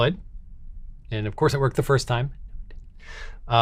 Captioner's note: whispers